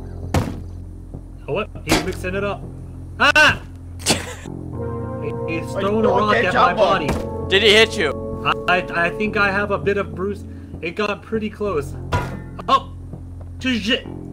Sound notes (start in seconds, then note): 12.1 bang